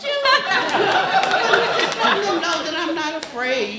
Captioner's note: laughing